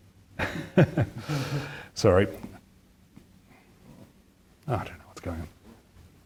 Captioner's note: laughs